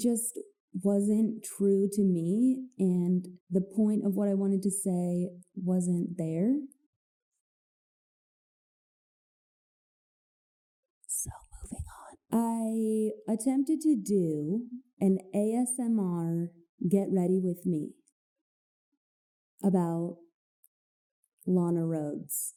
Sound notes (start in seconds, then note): 10.4 gentle whispering